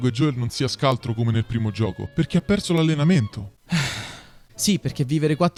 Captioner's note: breath